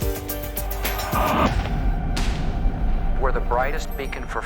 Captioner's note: explosion blasts